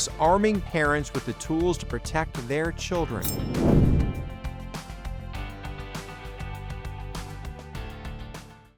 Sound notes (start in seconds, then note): 3.0 resolute music; 3.1 screen whooshes